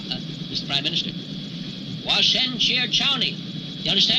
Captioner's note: speaking in foreign language